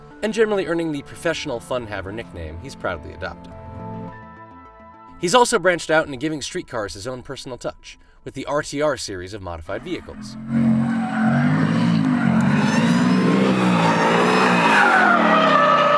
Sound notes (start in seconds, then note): 10.0 engine roaring; 12.8 tires screeching